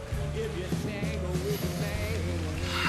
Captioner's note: sniffs deeply